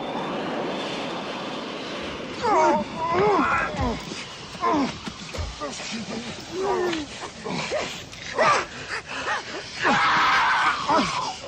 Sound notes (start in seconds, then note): 3.4 strangled sounds – Scuffle